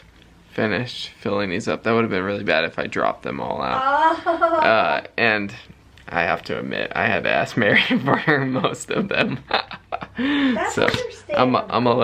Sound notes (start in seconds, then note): 9.8 chuckling